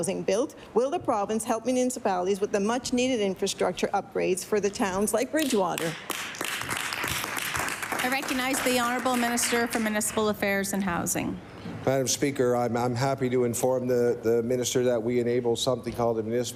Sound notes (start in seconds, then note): 9.2 some Applause